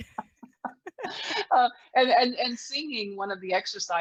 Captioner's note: laughing